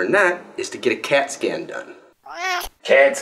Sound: cat meow

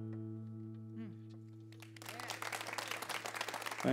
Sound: applause

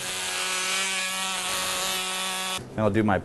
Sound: drilling sound

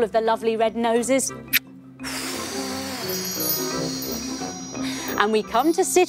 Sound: blowing kisses

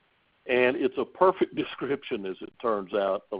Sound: chuckles

